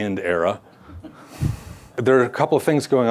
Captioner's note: audience chuckles